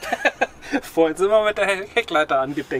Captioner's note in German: lachen